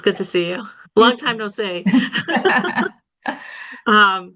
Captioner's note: laughs